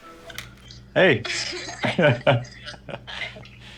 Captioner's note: chuckles